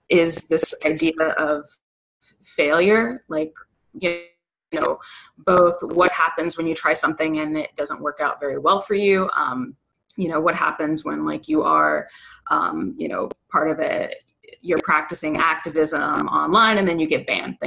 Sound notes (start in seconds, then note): none